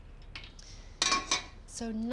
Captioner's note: utensil rattles